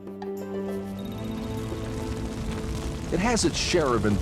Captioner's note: fire crackling